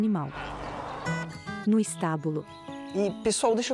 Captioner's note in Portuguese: Pássaros